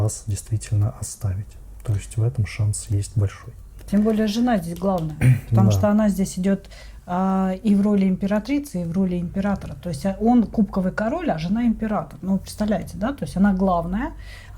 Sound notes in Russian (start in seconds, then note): 5.2 откашливается